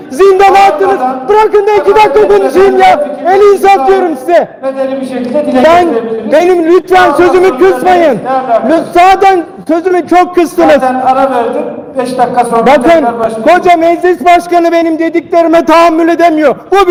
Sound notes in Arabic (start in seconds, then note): 5.5 مشاجرات متوترة